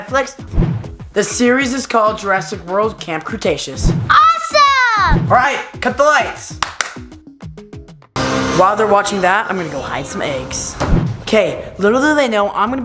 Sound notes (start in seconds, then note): 6.5 claps